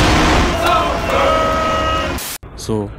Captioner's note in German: Rauschen